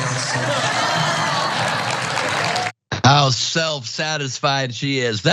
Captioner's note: applause